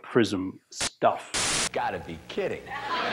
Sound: static

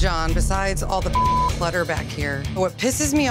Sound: beep

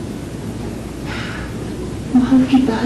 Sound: Tony sighs

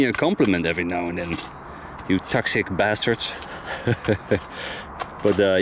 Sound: laughs

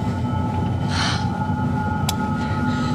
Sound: gasps

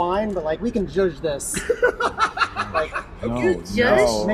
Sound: laughter

